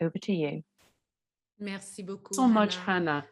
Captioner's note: speaks French